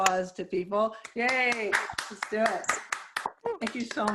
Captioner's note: applause